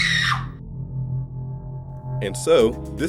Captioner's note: loud scream